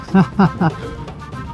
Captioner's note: laughs